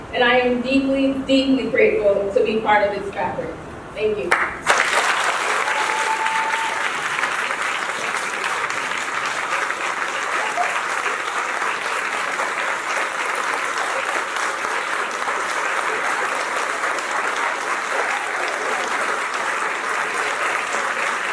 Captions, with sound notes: And I am deeply, deeply grateful to be part of its fabric. Thank you. [APPLAUSE]